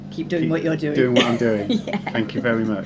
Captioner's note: laughs